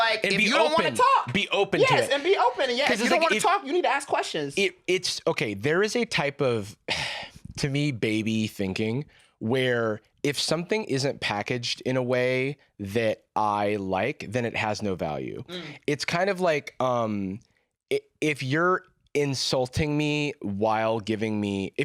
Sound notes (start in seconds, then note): 6.9 sighs